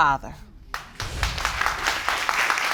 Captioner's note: audience applauding